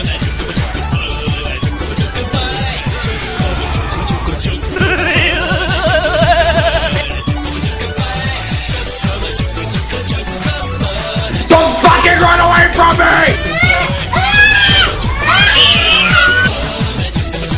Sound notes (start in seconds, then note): 4.6 scoff; 13.2 baby's crying